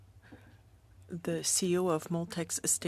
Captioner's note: speaking French